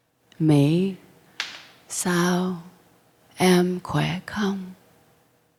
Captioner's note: speaking in foreign language